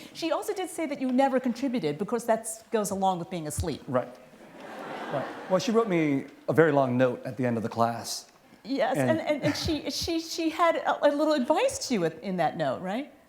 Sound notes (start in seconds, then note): 4.5 laughter